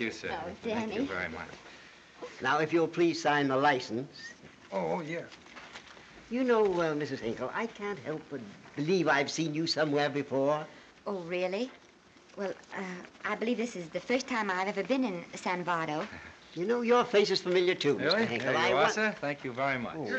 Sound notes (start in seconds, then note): none